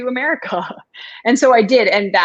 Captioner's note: laughter